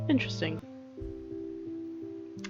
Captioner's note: none